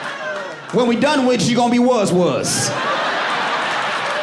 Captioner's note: audience laughing and cheering